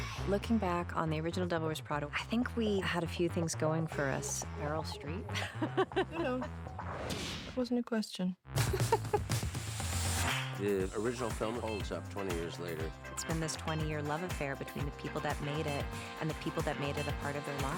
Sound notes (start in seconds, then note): 4.0 laughs; 8.6 chuckles